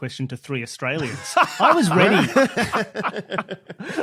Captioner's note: group laughing